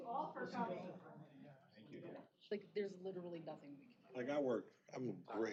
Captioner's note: off-mic chatter